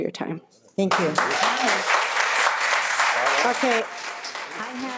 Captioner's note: people applauding